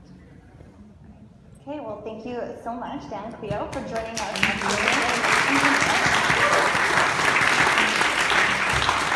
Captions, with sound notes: - Okay, well thank you so much, Dan and Clio for joining us. (audience applauds)